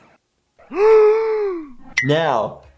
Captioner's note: gasping